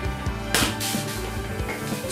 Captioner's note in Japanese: 風船を投げつける音